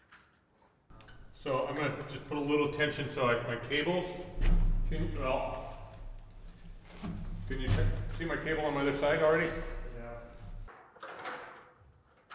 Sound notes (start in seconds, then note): none